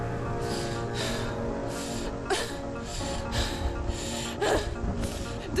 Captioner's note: panting